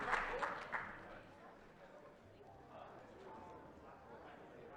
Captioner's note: attendees chattering